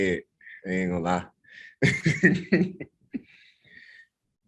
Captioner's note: laughs